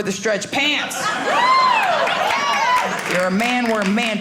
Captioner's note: audience laughing